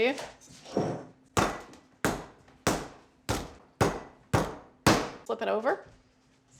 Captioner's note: pounding sound